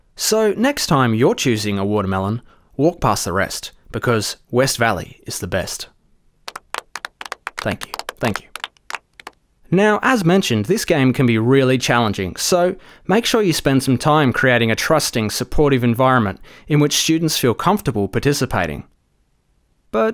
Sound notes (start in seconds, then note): 6.4 scattered applause